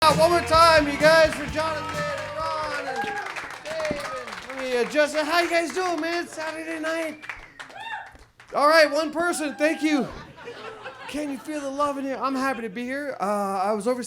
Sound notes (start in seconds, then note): 2.5 audience applauds; 9.9 audience laughs